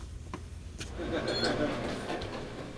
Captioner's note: entrance door beeps